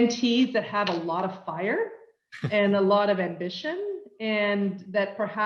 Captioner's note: laugh